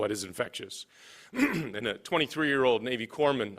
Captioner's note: clears throat